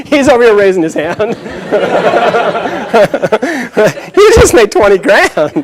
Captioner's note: laughter; chuckles